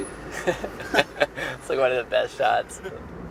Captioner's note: laughing